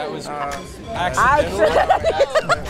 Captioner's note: group laughing